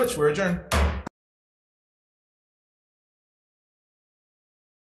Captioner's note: gavel thudding